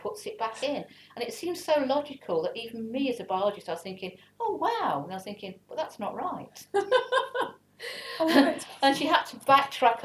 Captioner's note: laugh